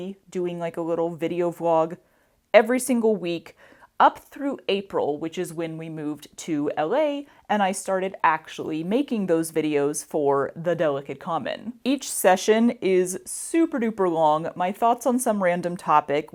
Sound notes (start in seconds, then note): none